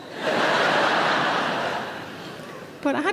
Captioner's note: audience laughs